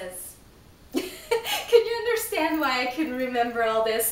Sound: laughs

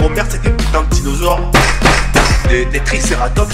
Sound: tap tap tap

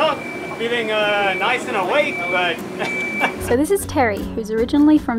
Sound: laughs

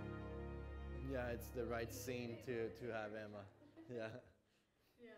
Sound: low-voiced chatting

